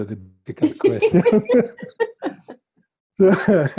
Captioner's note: laughing